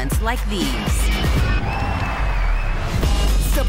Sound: crowd applauds

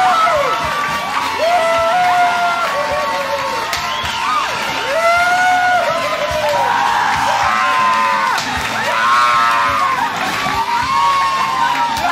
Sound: raucous cheers and applause

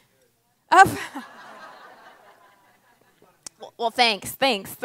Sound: audience laughs

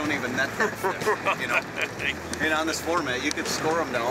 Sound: laughing

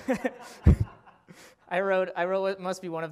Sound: laughter

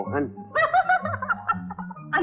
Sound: laughs

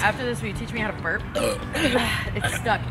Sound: burrp; burp

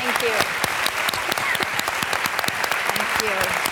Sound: applause

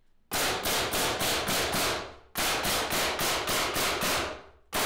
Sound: nails banging loudly

